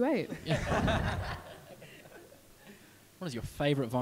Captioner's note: audience laughs